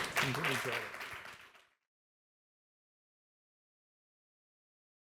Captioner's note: audience applauding